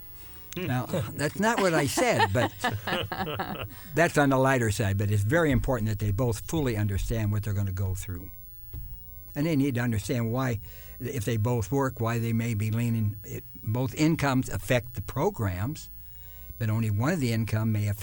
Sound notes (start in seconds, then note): 1.4 laughter